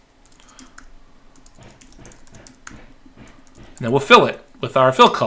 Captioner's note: keyboard clicking